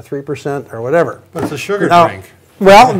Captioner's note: laughs